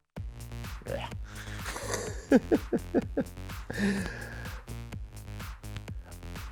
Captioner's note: laughs